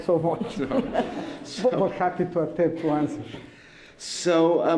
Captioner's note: laughter